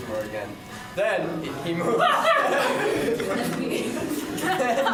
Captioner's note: laughter